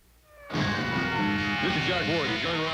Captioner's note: siren wailing